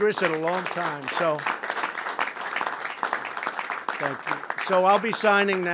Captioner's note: applause